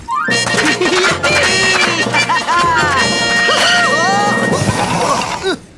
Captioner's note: cheerful laughing